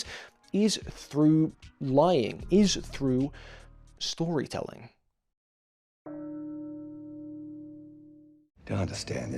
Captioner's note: church bell tolls once